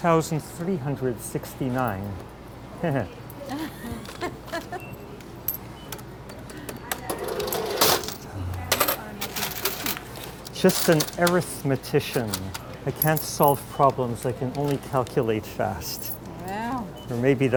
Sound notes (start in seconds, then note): 3.4 laughing; 3.5 chuckle; 6.3 tapping keys, register opening